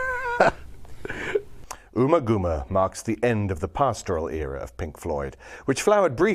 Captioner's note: laugh